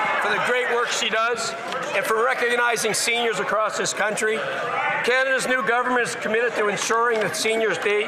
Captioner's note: some Applause